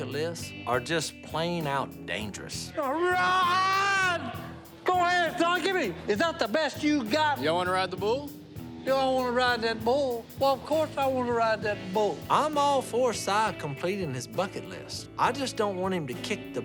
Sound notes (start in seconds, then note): 2.2 shouting